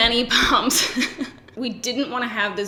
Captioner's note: laughs